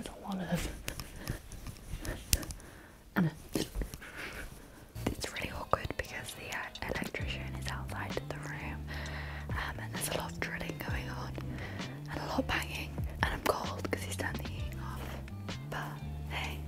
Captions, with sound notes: There's a lot of (hands thumping) and a It's really awkward because the electrician is outside of the room and there's a lot of drilling going on and a lot of banging and I'm cold 'cause he's turned the heating off but hey,